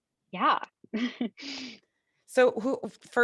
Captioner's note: chuckles